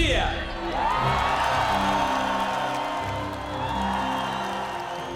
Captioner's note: cheering, applause